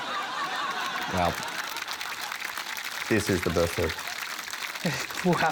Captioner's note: laughter, applause